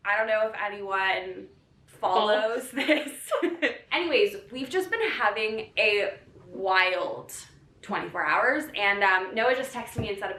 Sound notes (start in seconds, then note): 2.1 laughs